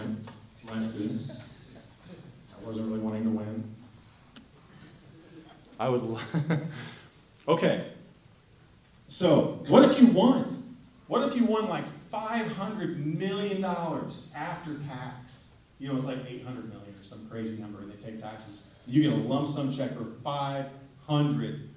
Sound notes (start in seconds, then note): 6.1 laughter